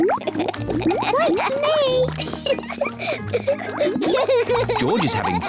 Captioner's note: laughs; both laugh